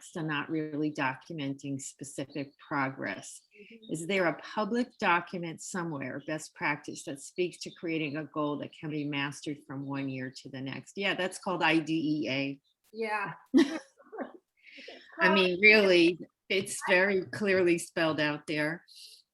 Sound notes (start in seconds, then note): 13.5 laughter